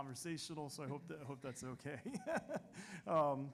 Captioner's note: chuckles